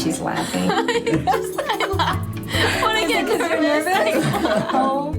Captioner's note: laughs